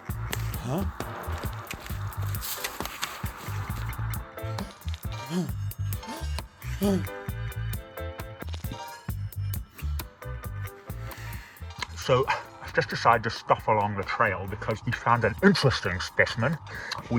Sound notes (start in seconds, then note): 2.2 grass rustling; 5.9 gasping; 8.0 upbeat music